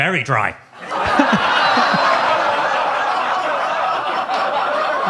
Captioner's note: audience laughs